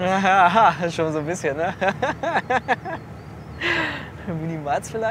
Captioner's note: laughs